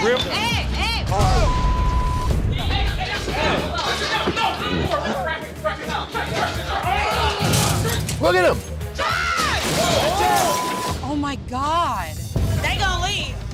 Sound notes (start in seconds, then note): 6.5 grunts; 9.0 shouts